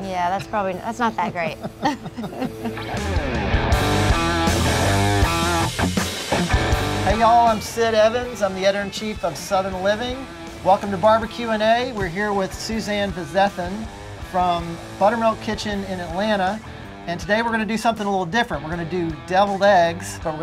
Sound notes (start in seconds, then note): 2.2 laughing; 3.3 upbeat rock and roll music